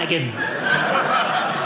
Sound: audience laughing

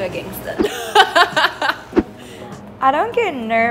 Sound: laughing

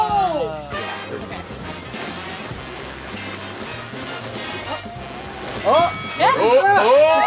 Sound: everyone exclaims; clock ticking; bell dings

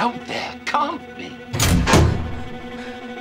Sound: clanging

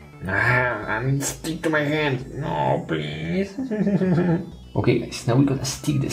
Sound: whimpers

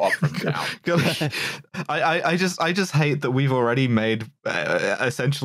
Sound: snickering laughter

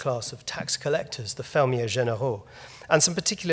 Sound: speaking foreign language

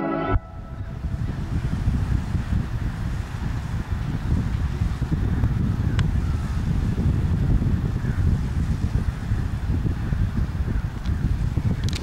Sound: wind blowing

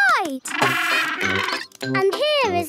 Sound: honking

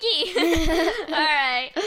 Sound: laughing

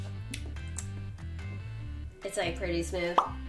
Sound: smacks lips

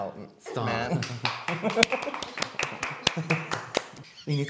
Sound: more Great Clapping

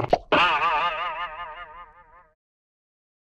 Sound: popping

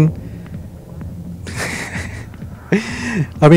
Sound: laughs

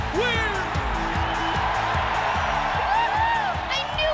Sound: audience cheers

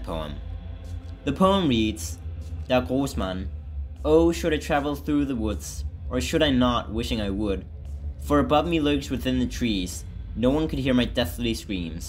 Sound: reading aloud

